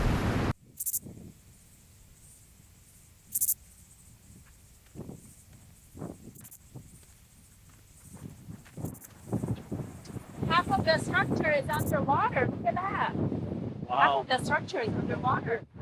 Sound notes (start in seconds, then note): 0.7 insects chirping; 8.1 wind whooshing